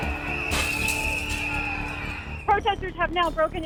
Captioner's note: glass shattering